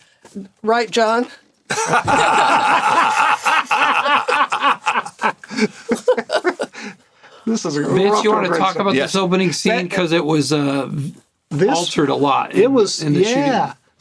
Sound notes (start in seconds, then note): 1.7 laughter